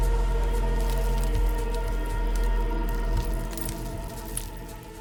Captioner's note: rocks clattering